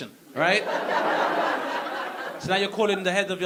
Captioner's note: audience laughing